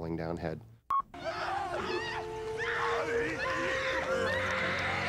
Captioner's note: both Screaming